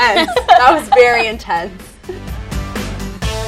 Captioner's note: laughing